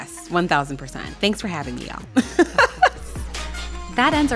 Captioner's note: laughing